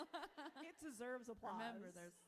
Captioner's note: author laughs